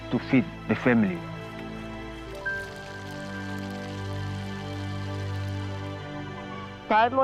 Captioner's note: cooking sounds